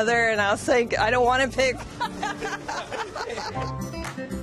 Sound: laughter

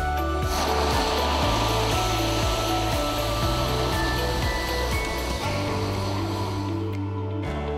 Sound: confetti cannons whoose

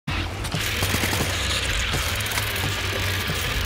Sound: spider noises

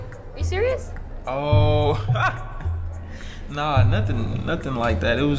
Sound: chuckles

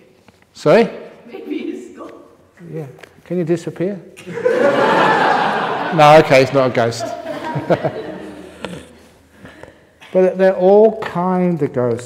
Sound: laughter

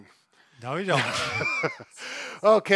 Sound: laughs

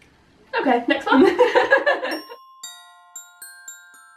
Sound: laughter

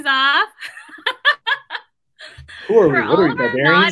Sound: laughs

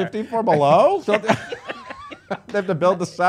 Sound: laughing

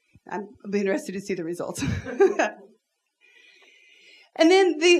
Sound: laughs

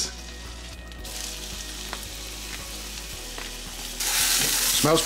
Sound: butter sizzles

